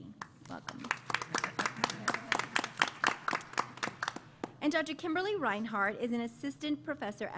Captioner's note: applause